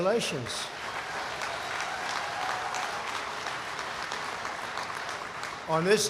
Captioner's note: applause